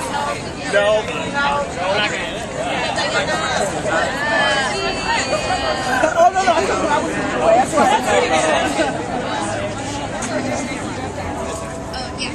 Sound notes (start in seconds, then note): 1.6 crowd talking